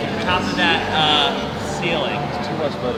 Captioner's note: murmurs